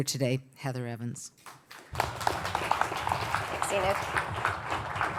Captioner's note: audience clapping